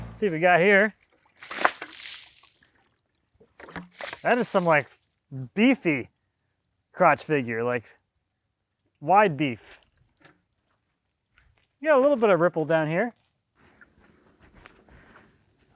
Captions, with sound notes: See what we got here. (water splashes) That is some like beefy crotch figure, like wide beef. You got a little bit of ripple down here.